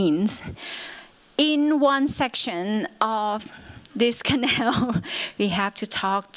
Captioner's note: chuckles